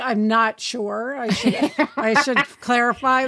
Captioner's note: laughs